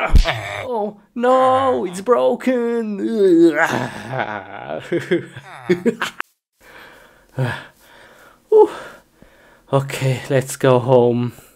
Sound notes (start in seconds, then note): 3.2 grunts; 5.2 psycho laugh; 6.6 inhales